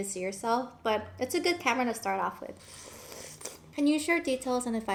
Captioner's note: slurping